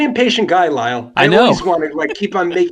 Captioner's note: laughs